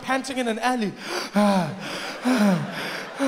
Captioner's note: breathing heavily; audience laughing